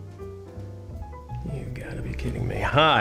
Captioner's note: muttering